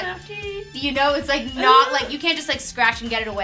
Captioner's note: shrieks